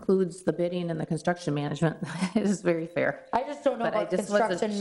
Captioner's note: laughs